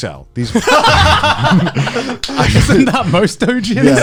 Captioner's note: both laughing